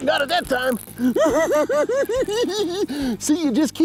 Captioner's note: giggling